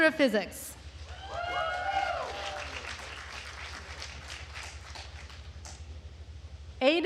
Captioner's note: attendees cheering and applauding